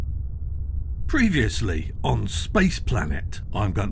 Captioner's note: voiceover